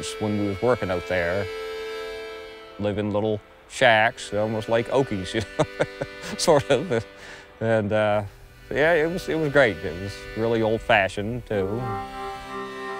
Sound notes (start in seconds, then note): 4.8 laughs